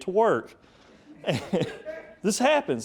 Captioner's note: speaker laughing